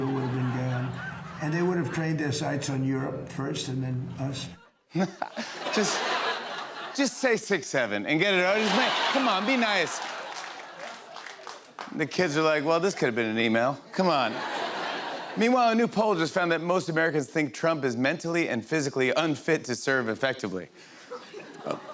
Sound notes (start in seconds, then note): 14.2 laughter